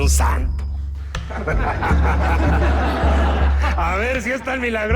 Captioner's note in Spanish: Risas